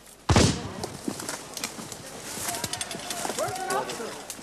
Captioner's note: soft chattering